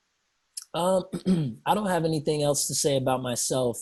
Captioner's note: clears throat